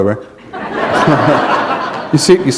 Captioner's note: laughter